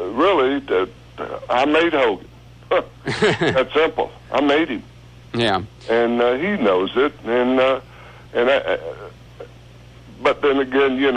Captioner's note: laughs